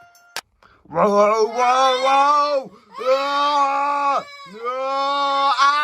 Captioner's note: yells